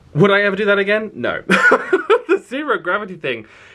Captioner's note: laughs